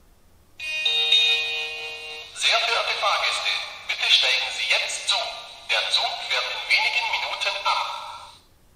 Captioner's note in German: Bahnhofsansage mit Gong